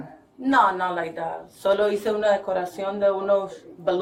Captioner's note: speaking in Spanish